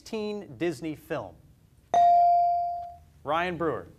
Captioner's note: beep